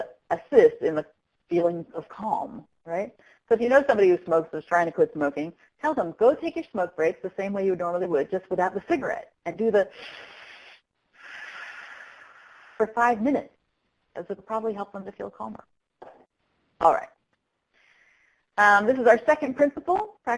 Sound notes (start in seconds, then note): 9.9 exhale; 11.1 inhale